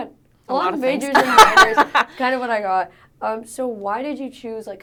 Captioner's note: laughs